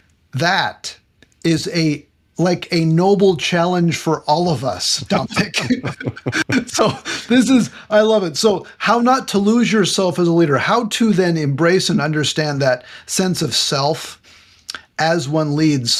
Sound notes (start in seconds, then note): 5.0 laughing